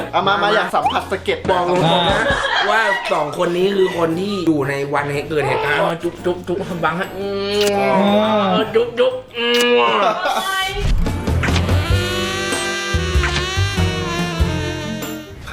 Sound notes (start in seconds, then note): 9.7 laughing; 10.4 gasps; 11.2 romantic music playing